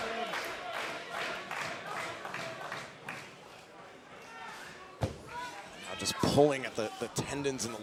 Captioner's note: crowd cheering